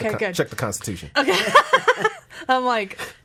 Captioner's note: laughing